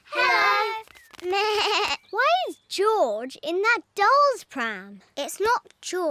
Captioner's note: bleats